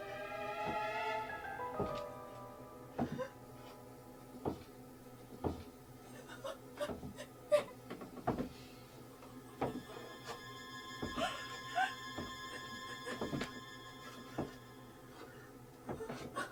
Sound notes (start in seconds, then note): 7.5 Ronnie cries; 7.5 Ronnie's panicked noises